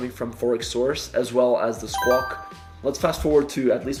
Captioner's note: message beeping